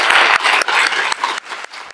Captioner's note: applause